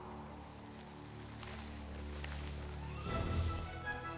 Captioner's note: rustling; whimsical music